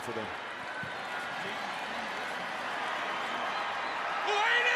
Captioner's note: cheering